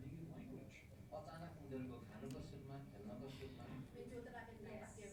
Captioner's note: parent speaking in foreign language